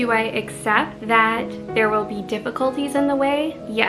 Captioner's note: none